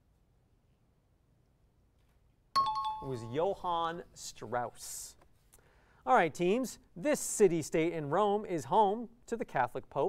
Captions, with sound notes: [timer bell] It was Johann Strauss. All right teams, this city-state in Rome is home to the Catholic pope.